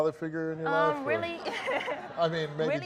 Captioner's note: laughs